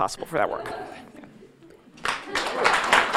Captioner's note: audience laughing; audience applauding